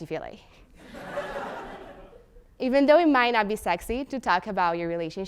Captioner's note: laugh